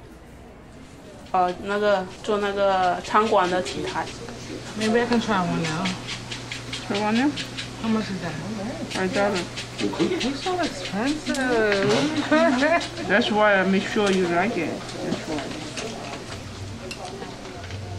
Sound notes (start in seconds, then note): 11.9 laughing